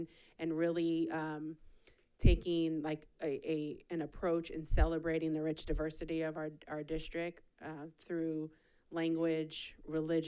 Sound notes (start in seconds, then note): none